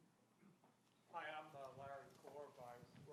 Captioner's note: speaking off mic